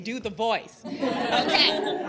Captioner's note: laughter